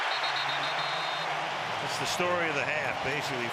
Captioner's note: whistle